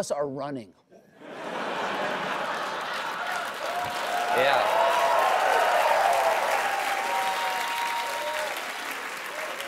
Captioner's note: applause